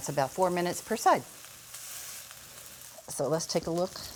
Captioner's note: sizzling